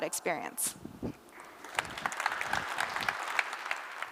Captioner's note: applause